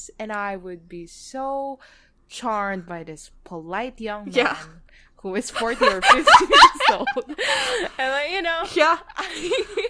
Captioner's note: laughing